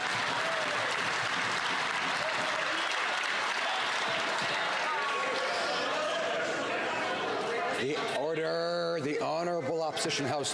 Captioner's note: some Applause